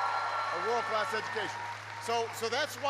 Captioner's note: applause